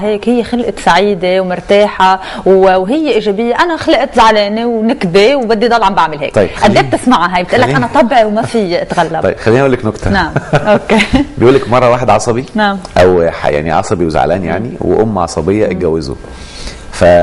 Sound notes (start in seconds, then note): 10.3 laugh!